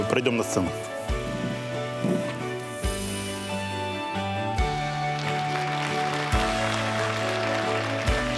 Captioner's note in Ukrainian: оплески